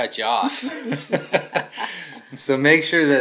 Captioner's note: both laughing